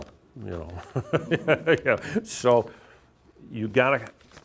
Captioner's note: laughs